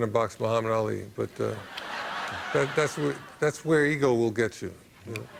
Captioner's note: laughter